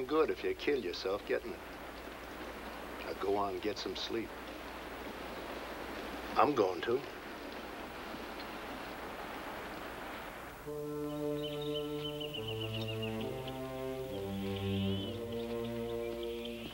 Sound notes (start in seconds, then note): 10.5 solemn music; 10.8 birds chirping